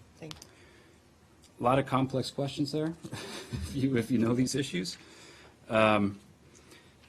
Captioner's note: laughter